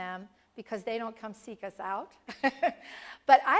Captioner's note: laugh